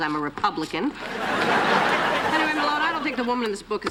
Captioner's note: laughter